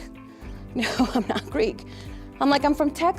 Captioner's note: chuckles